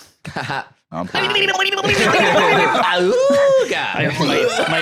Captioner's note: Porky Pig sounds